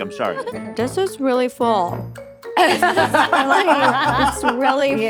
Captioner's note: all laughing